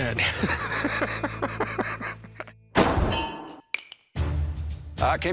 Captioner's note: chuckles